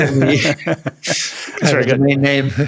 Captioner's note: laughs